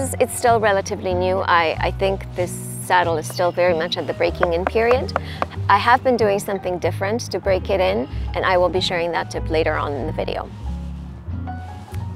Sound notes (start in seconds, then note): 4.4 five knocks